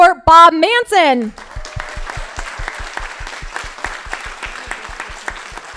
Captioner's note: crowd applauding